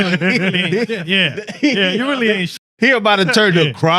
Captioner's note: laughing